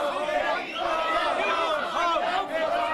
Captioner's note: crowd chanting